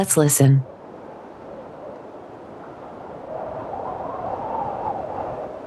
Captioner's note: wind blowing